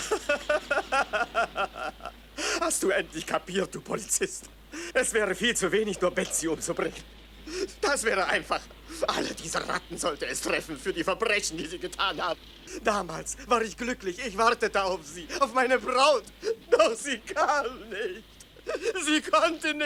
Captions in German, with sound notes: [gelächter] Hast du endlich kapiert, du Poliz? [gelächter] Es wäre viel zu wenig nur Betzubringen. Das wäre einfach. Alle diese Ratten sollte es treffen für die Verbrechen, die sie getan haben. Damals war ich glücklich. Ich wartete auf sie, auf meine Braut. Doch sie [gelächter] kam nicht. Sie konnte